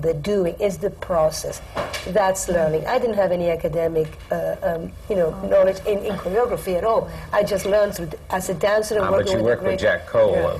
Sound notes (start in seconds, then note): none